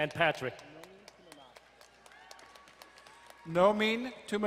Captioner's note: crowd cheering and applauding